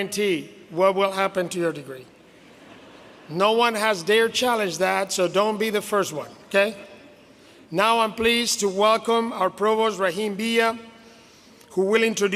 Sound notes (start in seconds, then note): 4.2 laughter